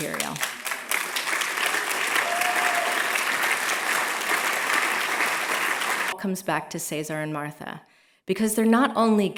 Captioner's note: applause